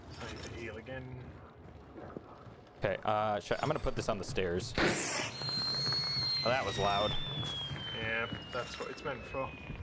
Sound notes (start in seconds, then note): 4.7 pop; 4.8 firework screaming